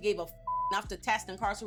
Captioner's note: beep